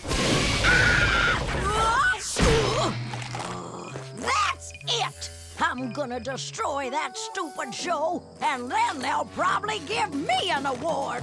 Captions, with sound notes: [screaming] [growling] That's it. I'm gonna destroy that stupid show, and then they'll probably give me an award.